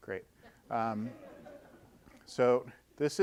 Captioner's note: audience laughing